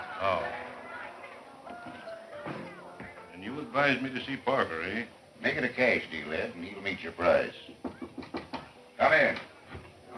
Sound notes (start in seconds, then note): 7.8 knocking